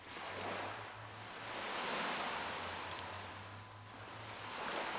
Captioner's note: sound of ocean waves